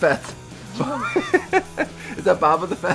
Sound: father laughing

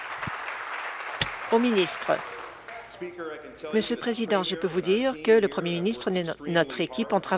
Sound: applause

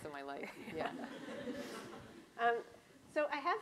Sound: laughs

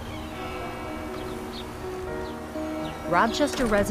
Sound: bell dinging

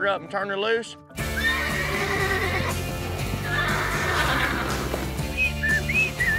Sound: horse neighs; whistling

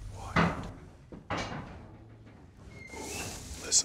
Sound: metal clanging

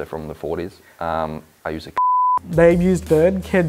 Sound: beep

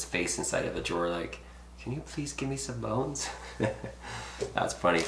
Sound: chuckling

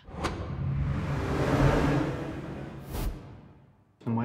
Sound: swoosh transition sound

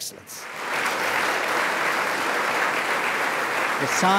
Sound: applause

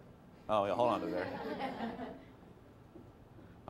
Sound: class laughing

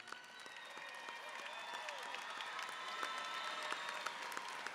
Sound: audience applauding

